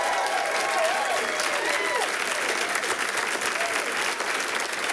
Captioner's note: audience applauding